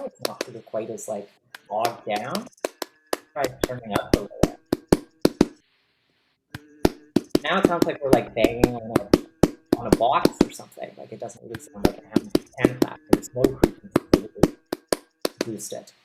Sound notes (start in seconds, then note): 4.6 sound gets bassier